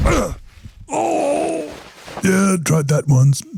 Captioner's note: moaning